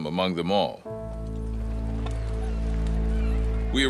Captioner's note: water rushing and seagulls squawking